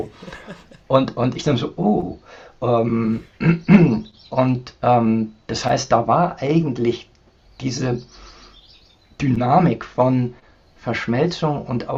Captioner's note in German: räuspern